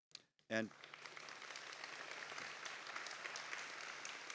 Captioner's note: applause